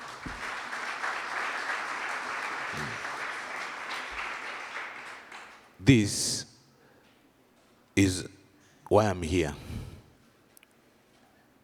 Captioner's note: applause